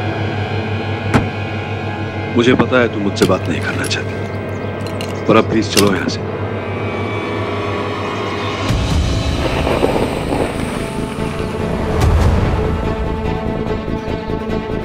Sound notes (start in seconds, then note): 0.8 Door closes